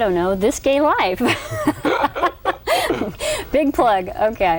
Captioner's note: laughter